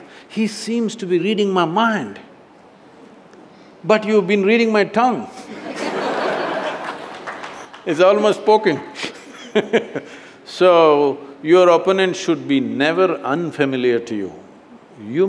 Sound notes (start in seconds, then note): 5.4 laughter; 9.0 laughs